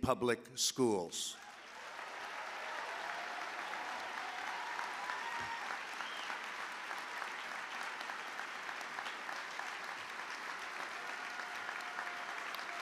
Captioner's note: applause